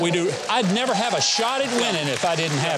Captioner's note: audience cheering